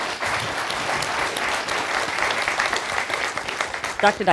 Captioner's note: applause